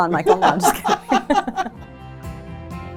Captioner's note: laughing; upbeat music